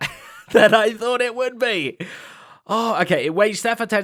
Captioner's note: laughs